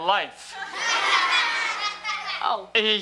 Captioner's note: audience laughs